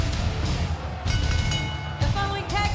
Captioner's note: bell rings